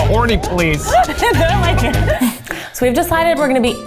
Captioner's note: laughter